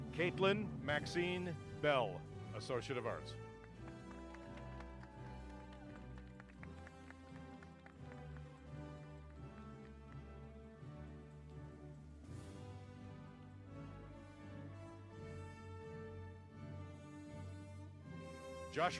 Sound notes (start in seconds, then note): 2.6 applause